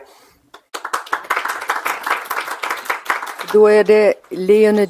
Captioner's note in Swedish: Applåder